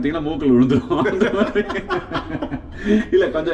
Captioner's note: laughs